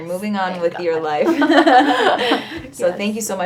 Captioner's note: both laughing